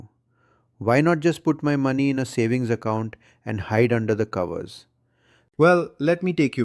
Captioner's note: sarcastic